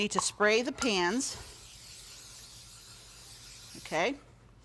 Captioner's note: spraying